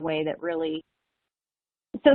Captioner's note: recording skip